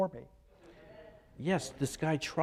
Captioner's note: crowd murmuring